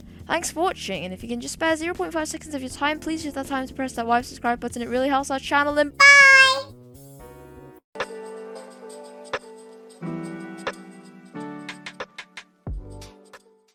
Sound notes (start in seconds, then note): 6.2 in very high pitched voice